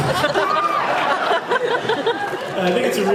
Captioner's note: laughs